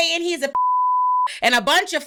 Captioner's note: beep